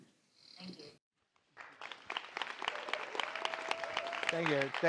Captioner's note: audience applauses